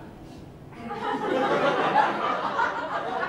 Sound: laughter

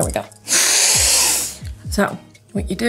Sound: snorts

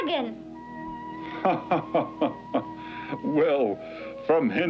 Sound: King Laughing

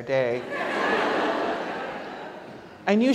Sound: audience laughs

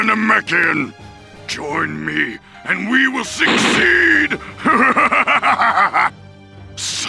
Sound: evil laugh

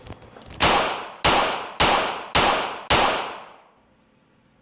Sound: gunshots roaring

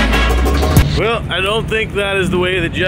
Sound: static sound

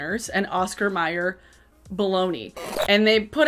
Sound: static squeals

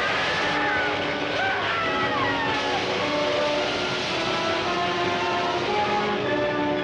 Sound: explosion booming; screaming; electricity crackling

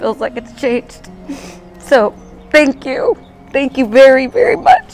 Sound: sniffles

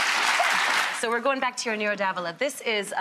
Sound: audience applause

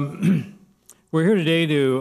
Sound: clears throat

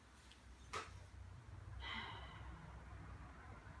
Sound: sighs

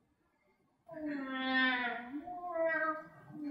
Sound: baby cry

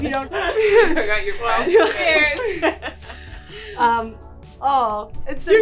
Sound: group laughing

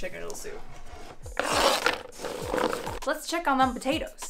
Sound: knife scraping

